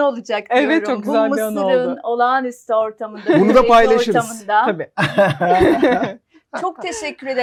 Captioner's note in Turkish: kahkaha